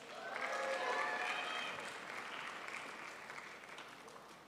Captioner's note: crowd applauds